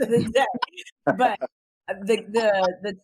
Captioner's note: laughs